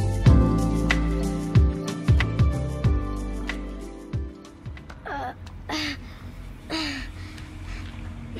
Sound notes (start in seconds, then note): 5.0 Aloy grunting